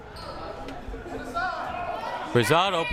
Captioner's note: crowd shouting